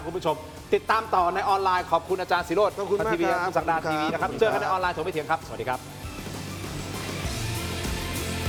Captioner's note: none